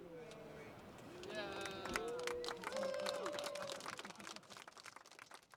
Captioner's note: applause